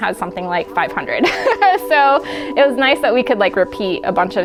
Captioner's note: laughing